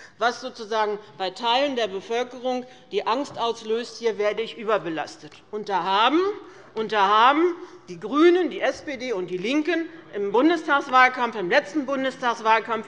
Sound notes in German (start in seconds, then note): none